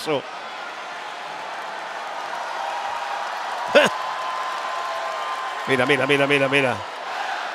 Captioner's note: applause